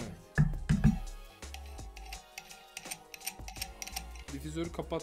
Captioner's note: screw noise